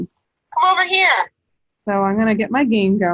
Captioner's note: iPad voice